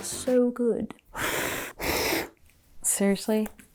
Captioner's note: blowing